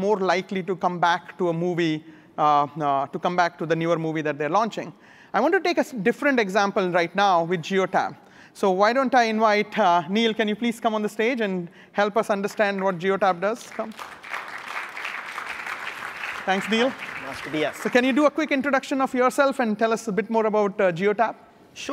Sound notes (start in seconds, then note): 13.5 applause